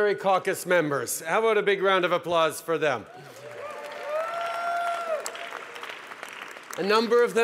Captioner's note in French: Acclamations et applaudissements